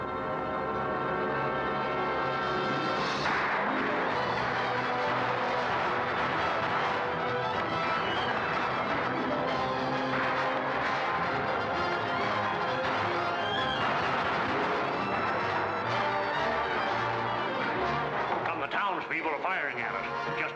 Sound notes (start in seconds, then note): 0.2 dramatic music; 3.2 guns firing